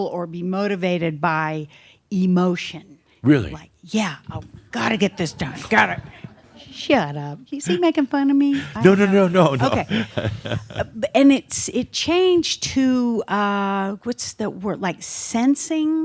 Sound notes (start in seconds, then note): 8.5 some chuckles as makes a face; 8.5 chuckles